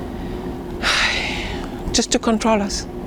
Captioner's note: sighing